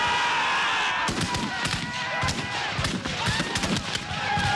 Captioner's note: men Yelling; gunfire